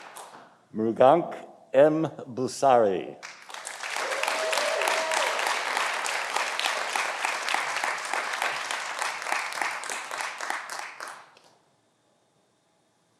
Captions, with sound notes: Mrugank M. Bhusari. (audience applauding)